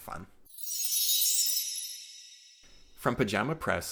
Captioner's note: chime sound